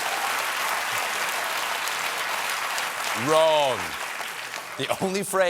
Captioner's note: applause